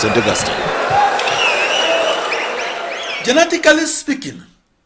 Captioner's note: wild applause and cheering for 22 seconds